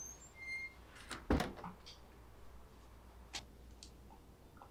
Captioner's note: door clicking